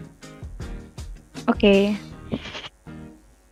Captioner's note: giggles